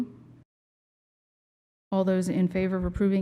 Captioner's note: silence